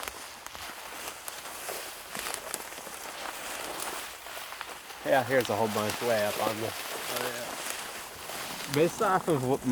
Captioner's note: walking noises